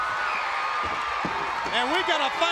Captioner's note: crowd cheering